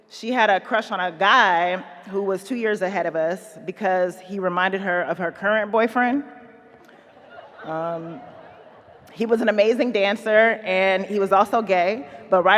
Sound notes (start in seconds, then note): 6.8 audience laughing